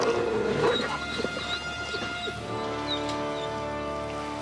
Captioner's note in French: loup gémissant